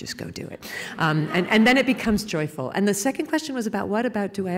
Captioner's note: laughter